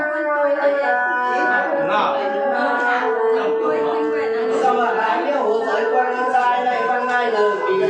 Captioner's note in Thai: ปรบมือ